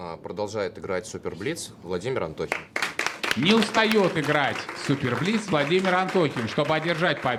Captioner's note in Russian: аплодисменты